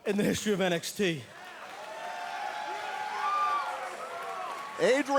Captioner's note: crowd cheering